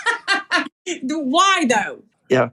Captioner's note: laugh